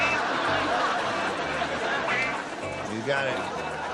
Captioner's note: laughter